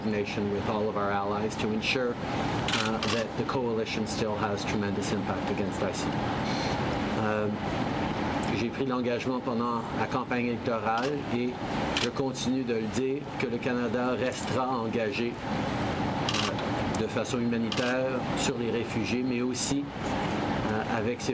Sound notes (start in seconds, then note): 8.8 speaks French